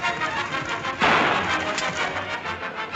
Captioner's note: gun clicks